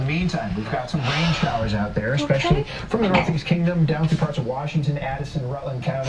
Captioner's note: crying